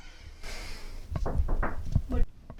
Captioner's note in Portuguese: batidas na porta